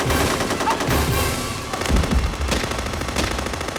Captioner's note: automatic Weapons Fire; pistol Shots